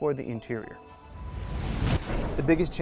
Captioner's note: graphics whooshing